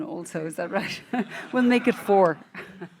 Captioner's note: laughing